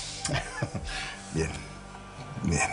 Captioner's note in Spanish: Risas